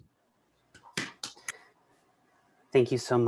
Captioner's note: clapping